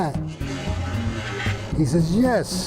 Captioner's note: plank creaking